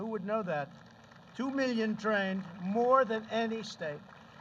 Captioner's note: applause